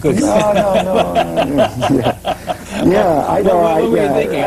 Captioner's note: laughing; laughs; laughing